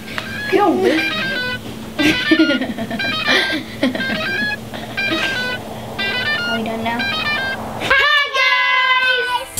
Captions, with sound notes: Get away from me! (laughing) Are we done now? Hi guys!